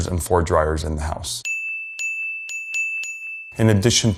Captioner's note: bells pinging